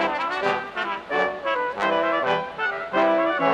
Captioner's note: none